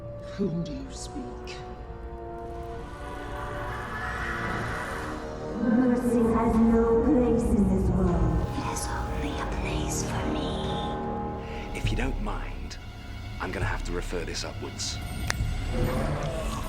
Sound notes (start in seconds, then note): 3.6 creepy laughter; 5.8 spooky female voice